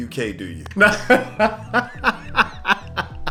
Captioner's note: laughs